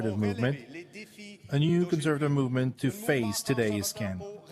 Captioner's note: speaking French